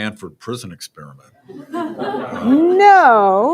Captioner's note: laughter